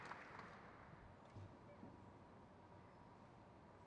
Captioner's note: crowd claps